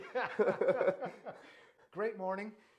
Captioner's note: both laughing